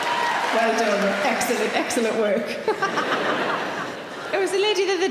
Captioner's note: laughs